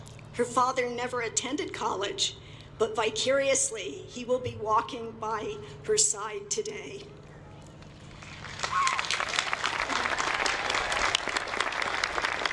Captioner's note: applause